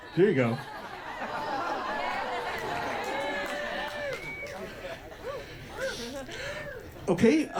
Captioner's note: audience whoops and applauds